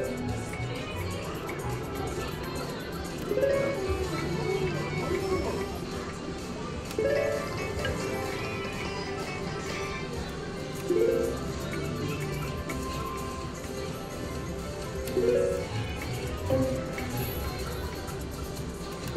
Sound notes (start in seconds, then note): 3.4 machine beeps